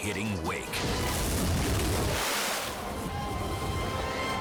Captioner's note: tube crashing